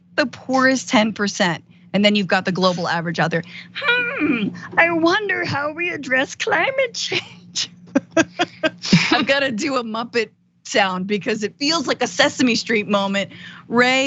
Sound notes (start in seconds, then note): 7.9 laugh